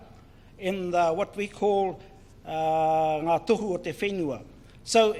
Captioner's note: foreign Language